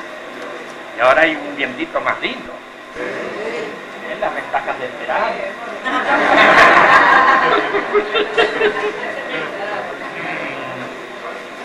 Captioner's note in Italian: risate